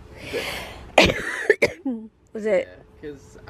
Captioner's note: coughs